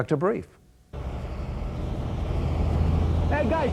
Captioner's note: motor rumbling